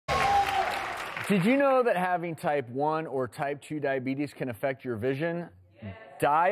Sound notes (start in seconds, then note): 0.0 audience cheering